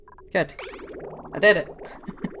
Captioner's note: laughs